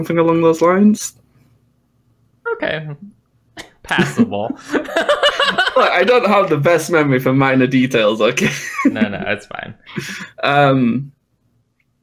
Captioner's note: laughter